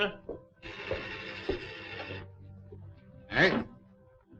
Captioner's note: bell ringing